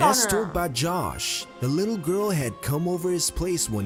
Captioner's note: voice-over